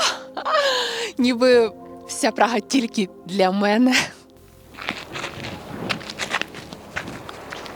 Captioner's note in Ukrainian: сміх; хекання